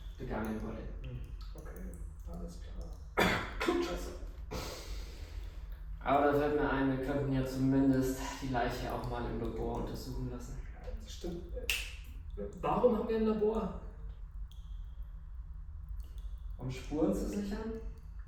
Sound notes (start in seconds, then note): 3.1 cough